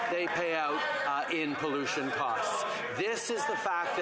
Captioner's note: yelling